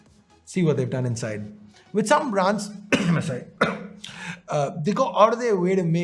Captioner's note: cough